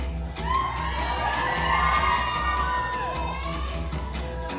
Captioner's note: applause